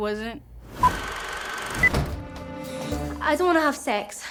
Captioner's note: film projector whirring